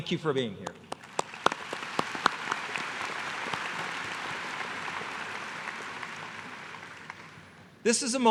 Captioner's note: applause